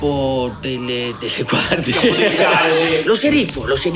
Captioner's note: laugh